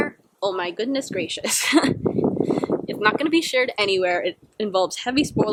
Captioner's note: giggles